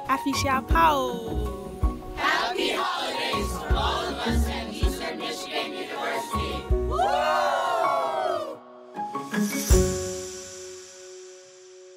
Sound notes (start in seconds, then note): 0.1 speaking asante twi; 6.9 cheering